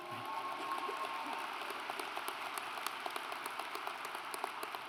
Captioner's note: audience applauds